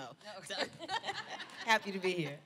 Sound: laughter

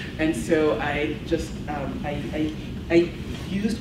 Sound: none

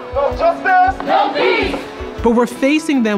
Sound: crowd

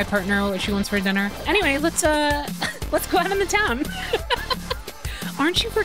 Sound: laughter

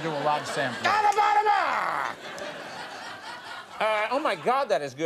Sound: Conan mumbles

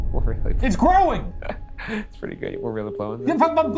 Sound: laughs; stammering

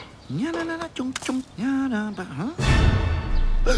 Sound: continues humming; gasps

